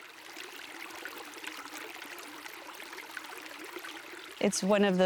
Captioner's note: creek flowing